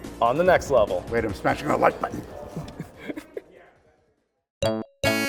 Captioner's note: laughs